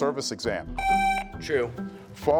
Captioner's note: buzzer buzzing